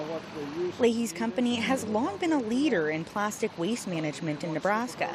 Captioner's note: voice-over